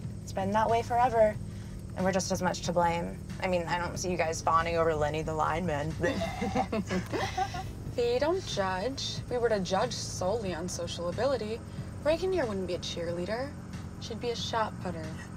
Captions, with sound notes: It's been that way forever, and we're just as much to blame. I mean, I don't see you guys fawning over Lenny the lineman. Bleh! - [laughs] Fi, don't judge. If we were to judge solely on social ability, Regan here wouldn't be a cheerleader. She'd be a shot putter.